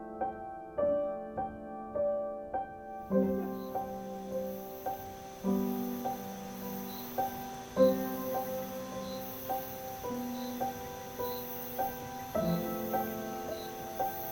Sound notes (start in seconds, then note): none